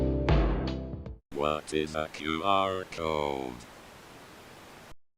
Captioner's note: robot voice